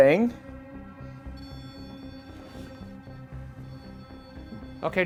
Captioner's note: REM pod beeping